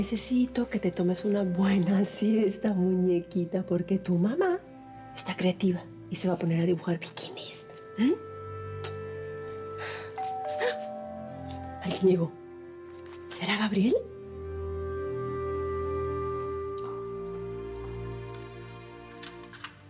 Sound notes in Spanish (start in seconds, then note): 10.1 Timbre de la puerta